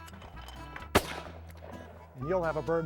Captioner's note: bang!